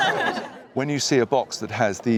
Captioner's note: all laugh